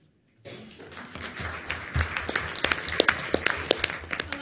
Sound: audience applauds

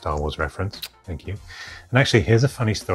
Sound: lips kissing

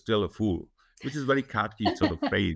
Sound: chuckles

